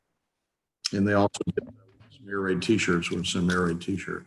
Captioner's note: speaks faintly